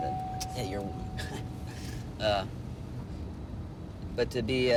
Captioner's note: chuckles